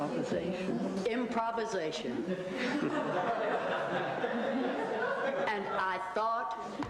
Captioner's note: audience laughs